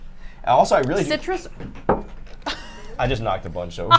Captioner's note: glass thumping